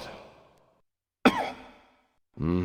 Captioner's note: cough